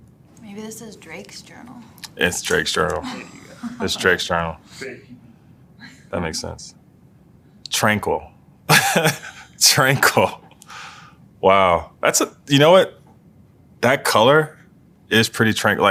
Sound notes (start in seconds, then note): 2.8 laugh; 8.7 laugh